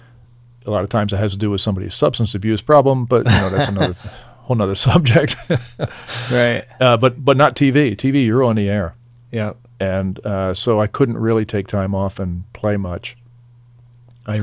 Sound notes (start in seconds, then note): 5.2 laughing